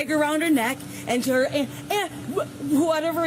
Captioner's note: woman stuttering